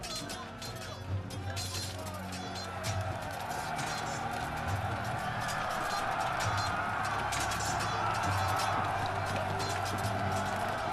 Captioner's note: dramatic music; crowd cheering